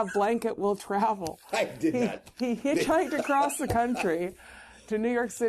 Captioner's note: laughter